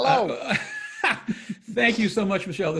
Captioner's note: laughs